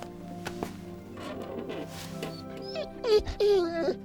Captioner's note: dog whimpers